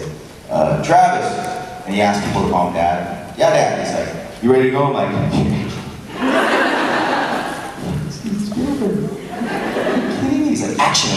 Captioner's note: giggles nervoulsy